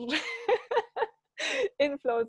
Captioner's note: laughing